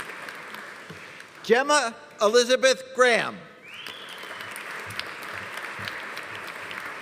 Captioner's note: audience applauding; audience cheering; audience applauding